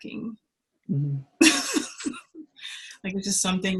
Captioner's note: laughs